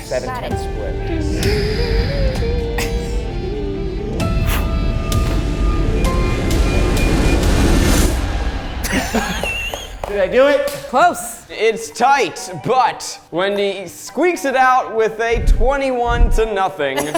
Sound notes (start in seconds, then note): 1.4 dramatic music; 8.8 everyone laughs